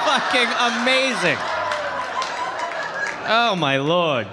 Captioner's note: audience laughing